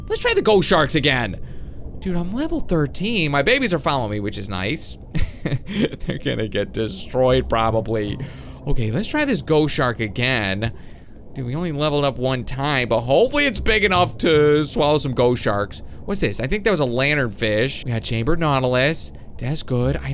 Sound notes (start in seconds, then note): 5.2 laughs